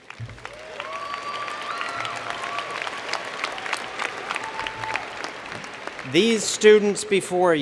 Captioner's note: cheers and Applause